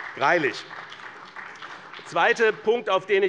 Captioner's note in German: Beifall bei dem BÜNDNIS 90/DIE GRÜNEN und der CDU